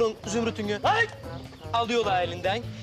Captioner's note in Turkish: Bağırma sesi